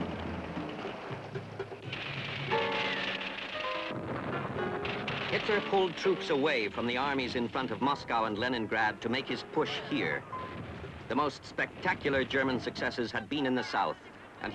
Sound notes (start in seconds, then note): 3.8 explosion; 4.0 gunfire continues